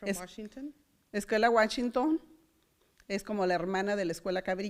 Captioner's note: foreign language